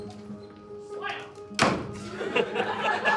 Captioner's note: slam